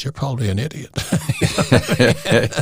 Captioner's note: laughing